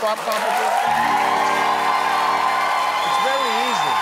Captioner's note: applause